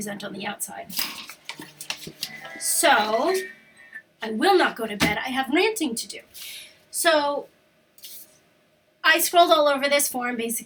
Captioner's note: alarm goes off, talks to phone